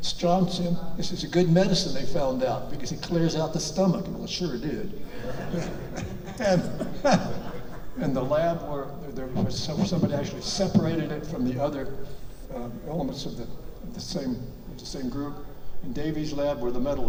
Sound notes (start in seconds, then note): 5.0 audience laughs; 5.1 laughs